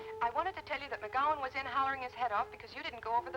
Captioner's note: on telephone